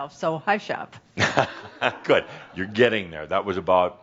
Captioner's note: chuckles